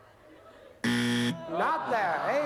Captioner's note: buzzer